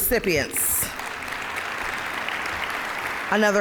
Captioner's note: applause